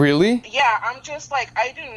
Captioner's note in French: Voix au téléphone